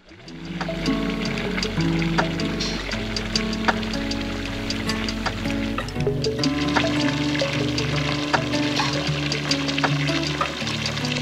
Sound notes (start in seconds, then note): 7.1 water running